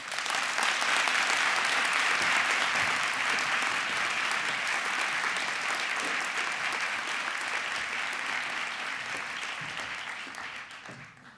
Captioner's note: applause